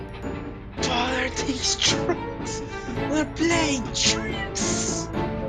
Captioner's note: gasp